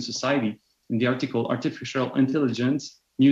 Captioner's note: speaking French